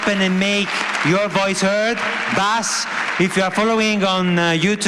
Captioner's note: applause